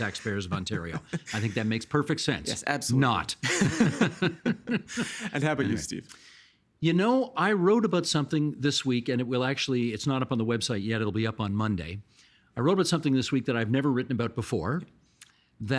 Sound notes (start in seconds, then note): 0.0 chuckling; 3.4 both laughing